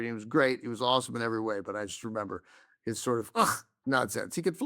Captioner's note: scoffs